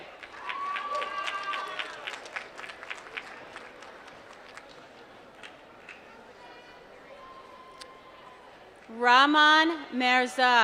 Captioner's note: applause